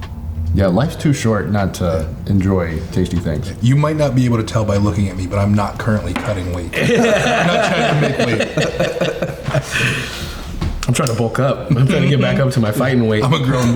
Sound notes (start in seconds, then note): 6.7 all laughing